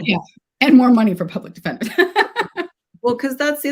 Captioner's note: laughs